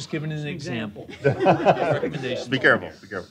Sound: laughter

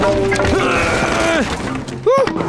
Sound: grunting

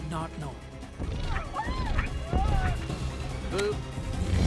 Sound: people screaming

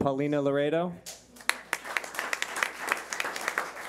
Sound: clapping

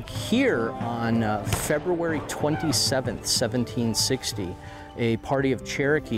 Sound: guns shooting

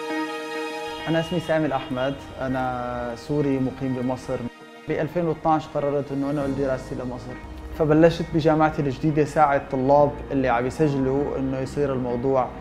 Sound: speaking arabic

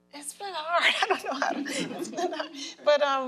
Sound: group laughs

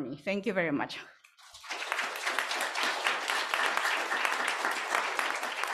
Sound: applause

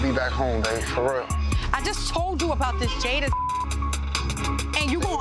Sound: beep

